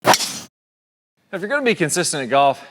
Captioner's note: golf club hits golf ball